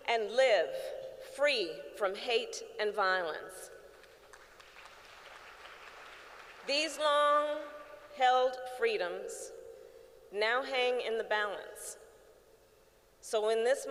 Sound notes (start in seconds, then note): 3.9 applause